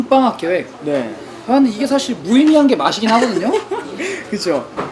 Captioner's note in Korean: 웃음